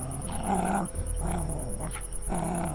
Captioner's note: growling and barking dog